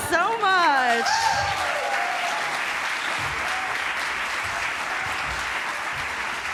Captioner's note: applause